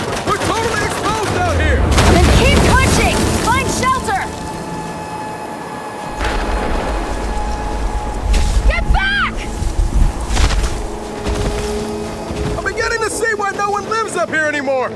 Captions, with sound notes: - We're totally exposed out here! - Then keep pushing! Find shelter! [distant explosion] - Get back! [distant explosion] - I'm beginning to see why no one lives up here anymore.